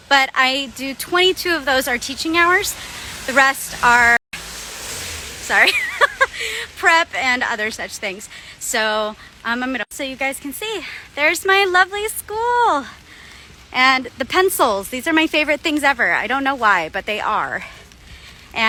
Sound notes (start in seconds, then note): 4.3 truck drives past; 5.6 laughing